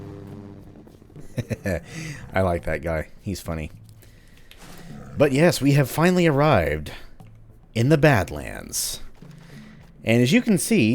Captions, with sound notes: *chuckles* I like that guy, he's funny. But yes, we have finally arrived... in the Badlands. And, as you can see...